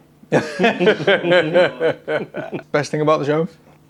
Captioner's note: laugh